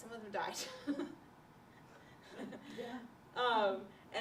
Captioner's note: laughter